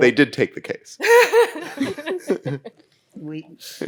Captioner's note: all laugh